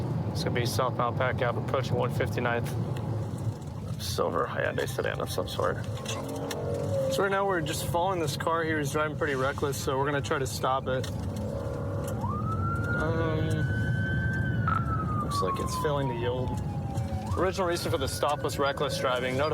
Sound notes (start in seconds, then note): 11.8 siren blaring